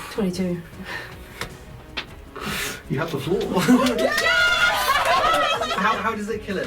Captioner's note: cheering